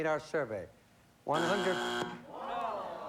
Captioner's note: buzzer